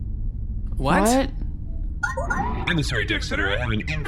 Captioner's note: incoming transmission beeps